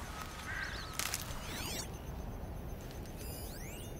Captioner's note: rustling